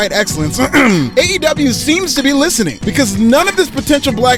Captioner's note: clears throat